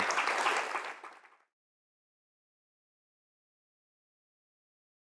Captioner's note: applause